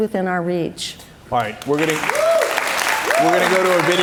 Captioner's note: cheers and applause